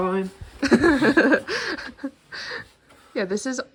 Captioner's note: laughs